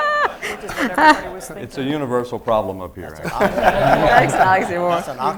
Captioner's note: laughter